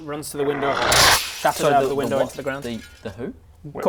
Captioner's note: tsssch